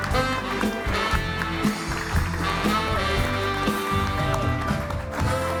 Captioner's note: bright music; audience applauding